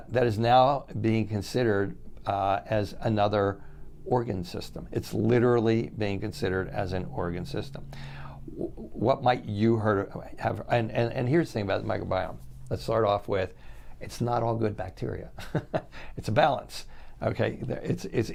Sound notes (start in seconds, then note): 15.3 chuckles